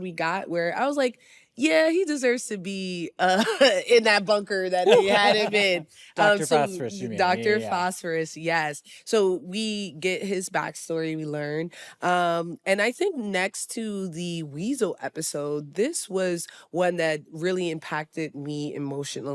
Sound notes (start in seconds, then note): 4.8 laughs